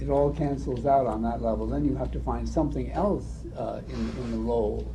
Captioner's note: none